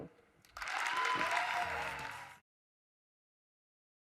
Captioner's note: applause